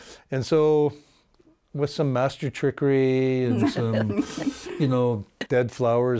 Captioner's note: laughing